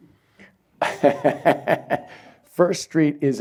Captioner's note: chuckles